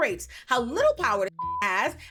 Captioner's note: beep